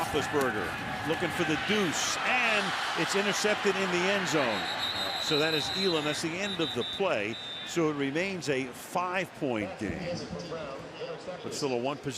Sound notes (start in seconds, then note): 4.4 whistles